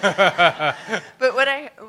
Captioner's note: laughter